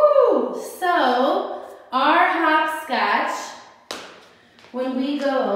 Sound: stamps foot

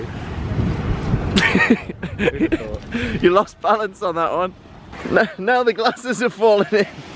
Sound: laughing

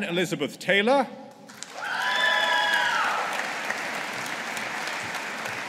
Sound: audience applauding

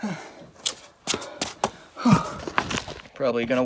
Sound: Chad breathing heavily

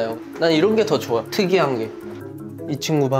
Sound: chattering

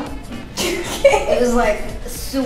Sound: laughs

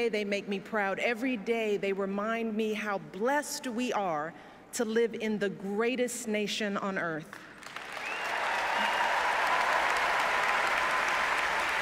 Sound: applause

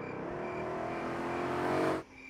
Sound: traffic sounds

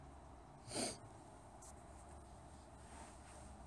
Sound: sniffs

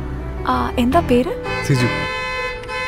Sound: horns honking

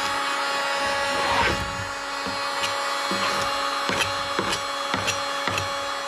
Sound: tool droning continues; scraper rasping and thumping

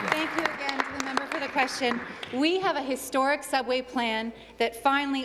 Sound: applause

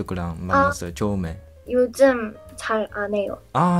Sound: Korean

